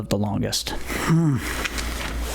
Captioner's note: grunts uncomfortably